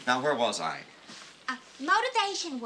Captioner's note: none